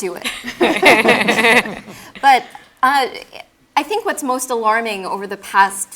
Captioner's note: laugh